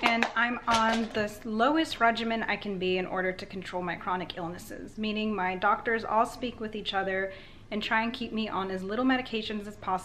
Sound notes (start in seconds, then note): none